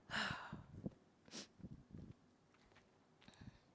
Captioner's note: sighs